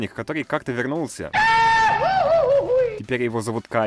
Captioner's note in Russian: смешной крик